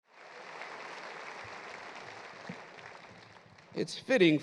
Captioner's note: audience applauds